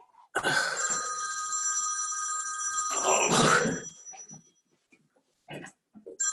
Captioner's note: groaning